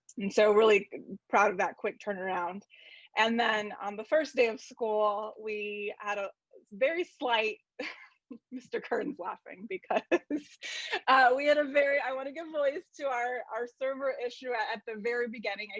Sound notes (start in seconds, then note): 9.7 laughs